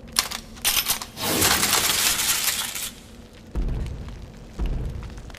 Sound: gun sounds

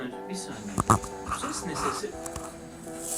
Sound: rabbit voice

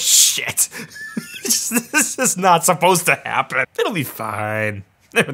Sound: laughs

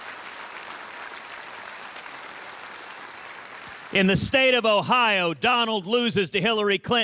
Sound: applause

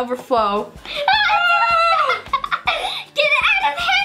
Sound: laughs

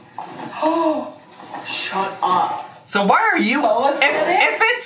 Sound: gasp

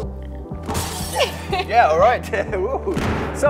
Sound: laughs loudly

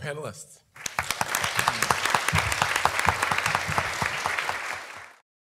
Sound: audience applauding

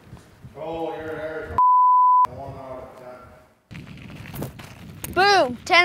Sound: beep

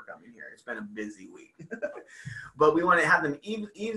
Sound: laugh

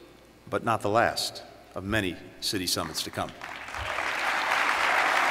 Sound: applause

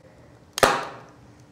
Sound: sharp snapping pop

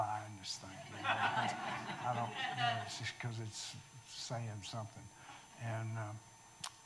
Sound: audience laughing

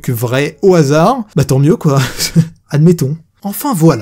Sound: laughs

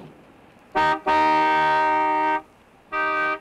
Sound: horn honking

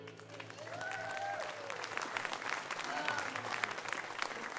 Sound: audience cheers and applauds

